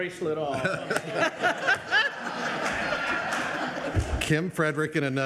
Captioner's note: audience laughs